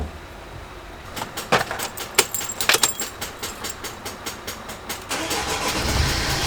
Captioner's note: knocking in the background; engine starts